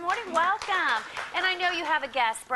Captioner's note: applause